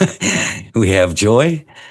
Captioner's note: laughs